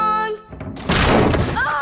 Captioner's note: crash